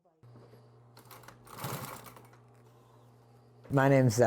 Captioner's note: sewing machine Whirring